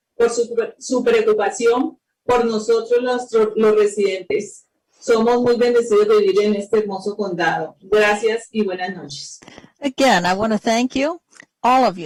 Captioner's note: speaking spanish